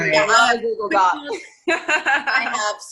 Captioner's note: laughing